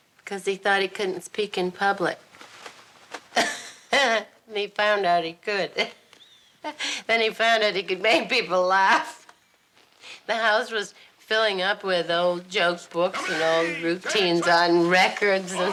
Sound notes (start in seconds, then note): 3.3 Betty laughs